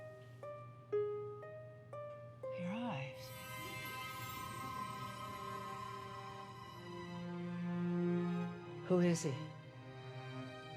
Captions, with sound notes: - Your eyes. (music intensifies) (water bubbling) Who is he?